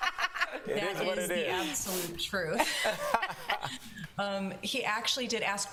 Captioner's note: laughter